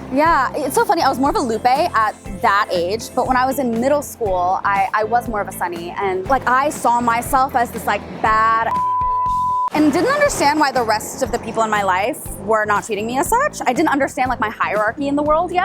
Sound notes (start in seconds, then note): 8.6 beeps